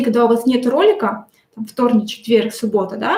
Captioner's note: none